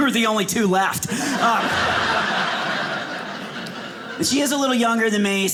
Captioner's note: audience laughing